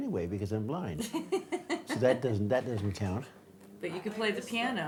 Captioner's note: laughs